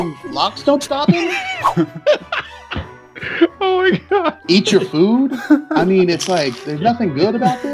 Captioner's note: laughing